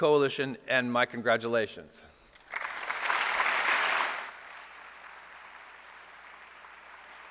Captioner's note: applause